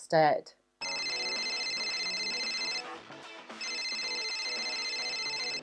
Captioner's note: phone rings and music plays